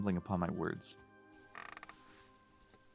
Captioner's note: chair squeak